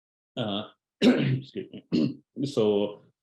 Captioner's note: clearing his throat